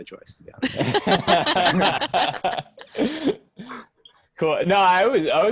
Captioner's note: teammates laughing